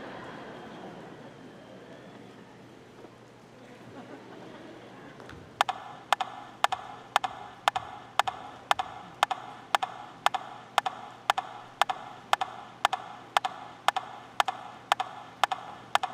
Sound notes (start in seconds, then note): 0.3 audience laughing; 7.2 rhythmic tapping